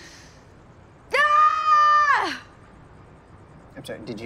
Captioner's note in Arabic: أطول الصراخ